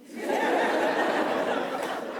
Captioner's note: laughter